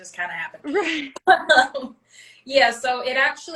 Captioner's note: both laugh